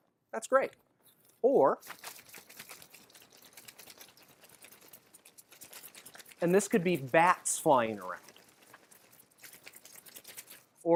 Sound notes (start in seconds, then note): 1.8 bat wing sound